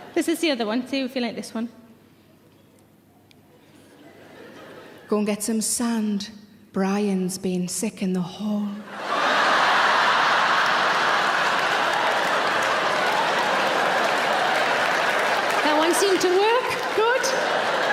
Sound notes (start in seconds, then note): 8.9 audience laughing; 9.1 audience clapping